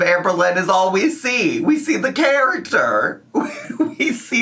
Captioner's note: laughs